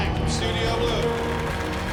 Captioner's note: applause